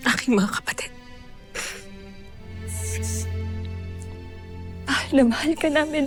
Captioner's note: sobbing